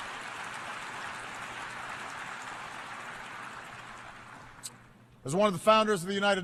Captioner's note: applause